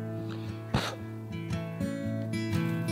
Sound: calming acoustic guitar; breath blowing out flame; calming acoustic guitar

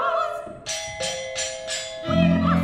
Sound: three chimes beats

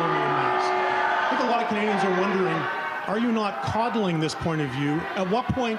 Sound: chanting

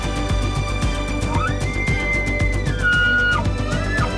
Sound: Shooter bugling

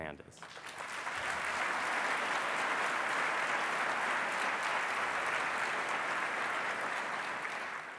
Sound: applause

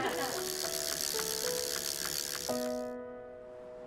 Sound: laughs; whirring sound

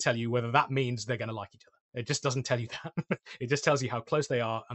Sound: laughter

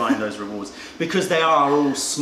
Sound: laughter

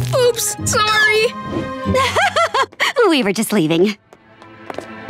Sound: laughing

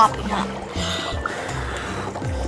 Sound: bubbling

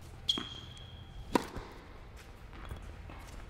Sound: ball bouncing; racqet hitting ball; sneakers squeaking

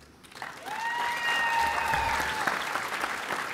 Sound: applause

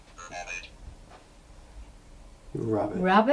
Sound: robot Voice

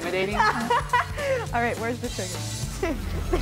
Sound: laughing; chuckles

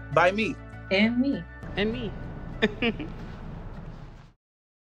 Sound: laughs

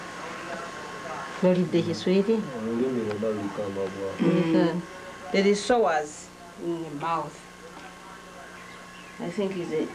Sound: non-english speech; non-english speech

